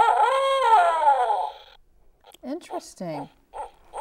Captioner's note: owl sounds